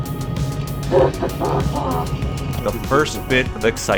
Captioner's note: excited sounds